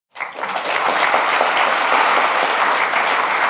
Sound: applause

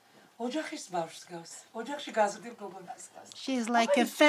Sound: speaking Georgian

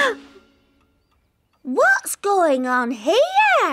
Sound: all gasp

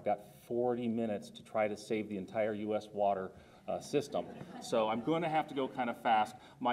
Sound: audience laughter

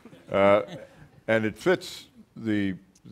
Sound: audience laughing

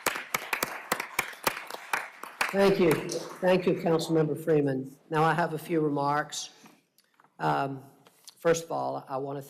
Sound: applause

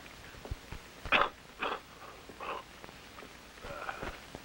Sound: coughing

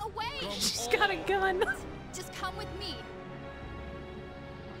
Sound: laughing

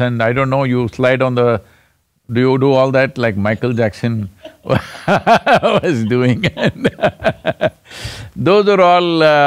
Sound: both laugh

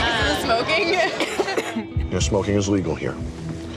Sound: patron coughs

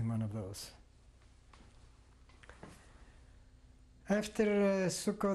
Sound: pauses for 3 seconds

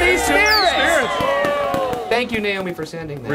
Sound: audience cheering

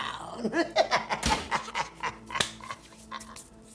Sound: cackling

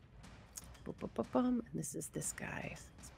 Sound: hums

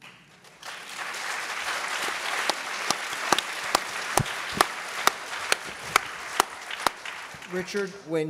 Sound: applause

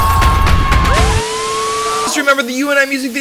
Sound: spectator cheering; siren blaring

